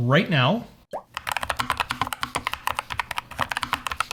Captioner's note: typing sounds